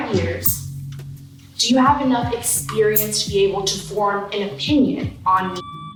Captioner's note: beep